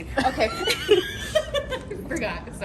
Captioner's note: both laughs